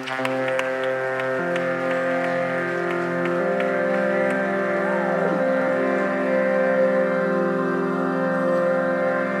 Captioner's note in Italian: Applauso